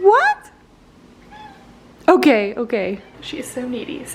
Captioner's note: Peach meowing